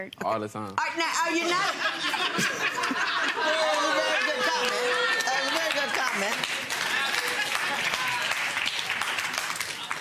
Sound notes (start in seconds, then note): 1.4 audience laughing; 7.1 audience applauding